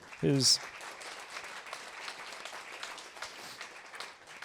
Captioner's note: applause